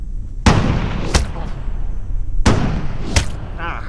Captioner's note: gun fires